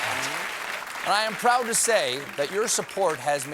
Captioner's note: applause